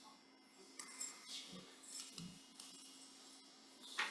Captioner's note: bells chiming